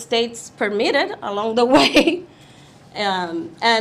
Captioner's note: chuckles